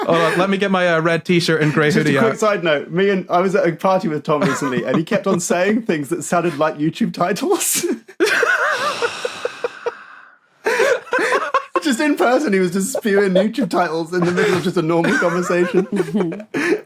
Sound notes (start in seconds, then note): 8.1 giggles; 8.6 wheezes; 8.7 sighs; 10.6 giggling